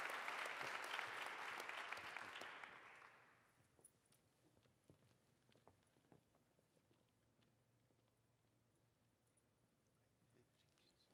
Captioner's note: applause